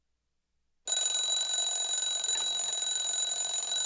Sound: alarm clock rings

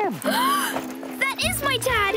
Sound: Remy gasps

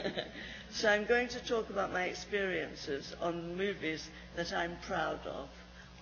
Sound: laughs

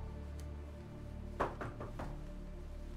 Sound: knock at door

